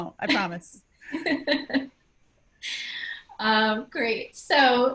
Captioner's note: laugh